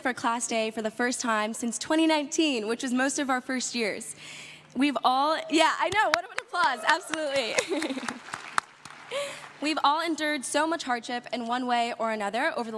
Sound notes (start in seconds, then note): 6.1 crowd applauds